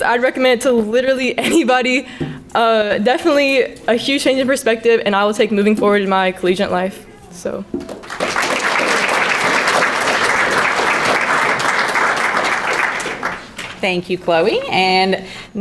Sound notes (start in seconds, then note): 7.7 crowd clapping